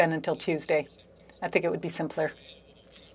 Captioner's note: speaking French